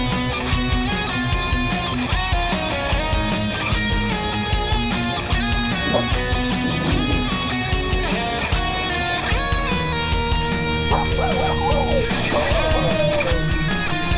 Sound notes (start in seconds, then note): 0.0 heavy metal music; 7.4 growling; 10.5 barking